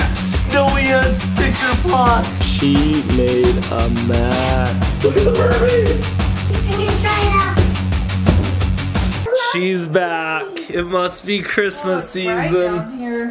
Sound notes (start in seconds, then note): 7.8 tail smacks